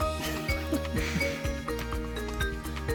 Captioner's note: laughs; fun music